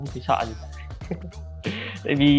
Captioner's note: laughs